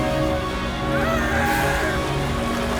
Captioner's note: screams